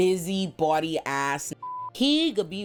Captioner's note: beep